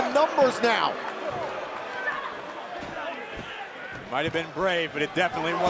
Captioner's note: crowd cheering